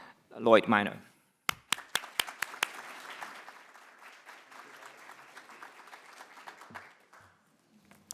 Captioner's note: audience applauding